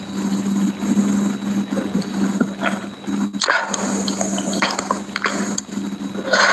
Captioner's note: laughs